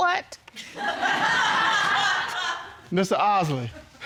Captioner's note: audience laughing